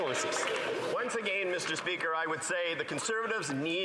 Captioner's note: some Applause